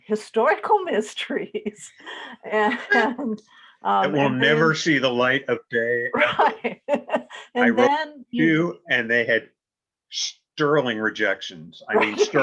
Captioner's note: chuckles